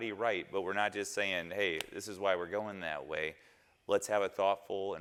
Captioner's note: snaps fingers